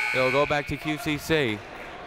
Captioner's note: buzzer